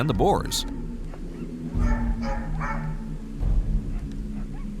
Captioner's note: dogs barking